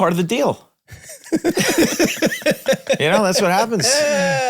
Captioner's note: Charlie laughs